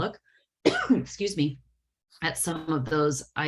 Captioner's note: coughing